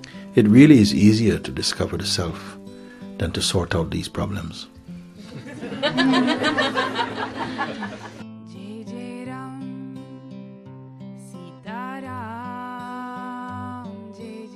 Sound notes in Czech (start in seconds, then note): 5.2 smích